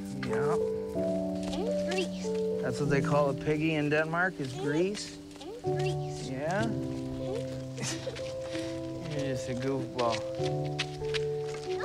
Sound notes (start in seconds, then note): 1.4 child speaks in Danish; 4.5 speaks in Danish